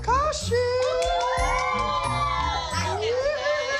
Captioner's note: cheering and applause